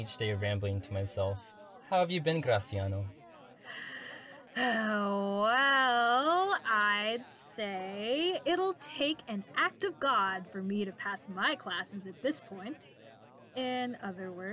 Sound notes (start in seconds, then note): 5.4 sighs